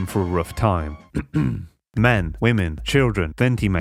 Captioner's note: clears throat